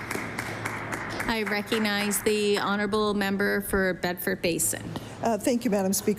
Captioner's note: applause